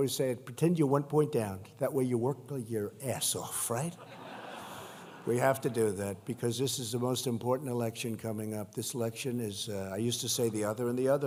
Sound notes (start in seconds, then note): 3.9 laughter